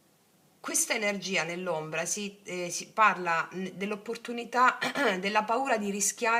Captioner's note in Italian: schiarire la voce